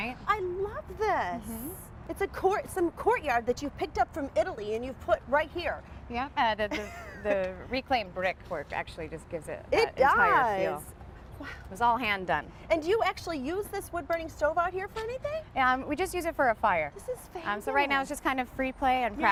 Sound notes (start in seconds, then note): 6.7 laughter